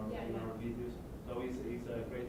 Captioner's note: voiceover